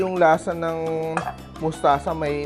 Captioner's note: clang